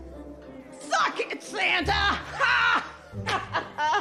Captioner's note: laughs